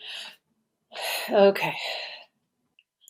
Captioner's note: sighs